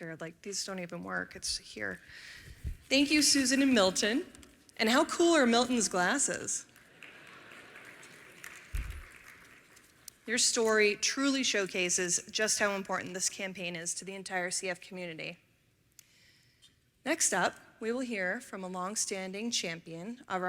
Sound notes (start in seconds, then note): 6.7 applause